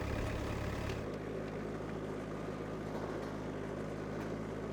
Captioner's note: tractor driving